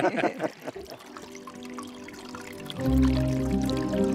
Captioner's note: laughter; water trickling